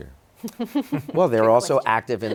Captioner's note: laughing